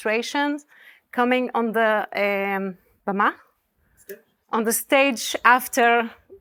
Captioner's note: speaking hebrew